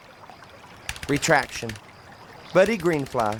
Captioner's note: keyboard clatters